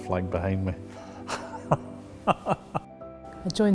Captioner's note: laughs